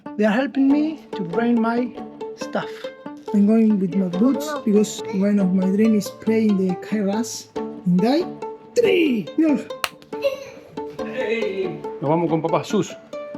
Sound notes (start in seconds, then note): 7.8 in Welsh; 11.2 in Spanish